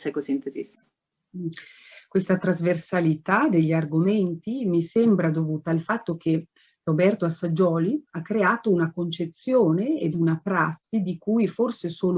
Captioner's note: speaks Italian